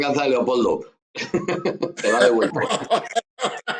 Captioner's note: laughs